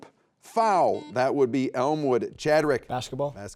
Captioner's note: buzzer beeps